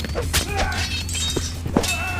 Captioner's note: metal clinking; men grunting